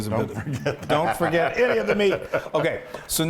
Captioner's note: laugh